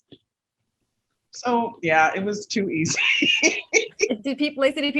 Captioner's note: laughs